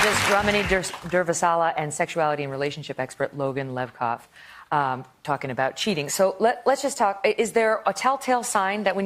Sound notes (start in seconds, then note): 0.0 applause